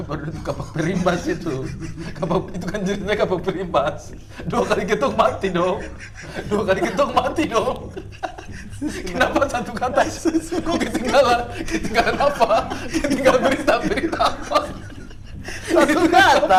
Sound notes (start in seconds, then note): 7.1 laughing